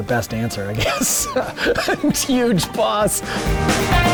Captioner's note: laughs